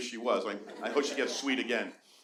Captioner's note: audience laughing